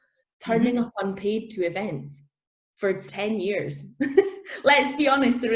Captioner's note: laughs